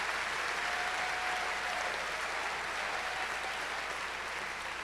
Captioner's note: cheers and applause